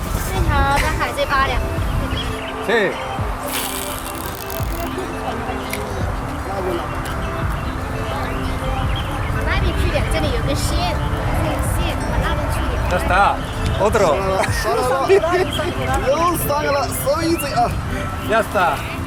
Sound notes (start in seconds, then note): 14.3 starts laughing